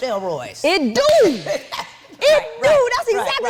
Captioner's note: Wendy chuckling